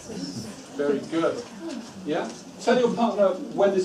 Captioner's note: whispers